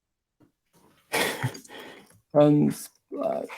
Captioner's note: laughing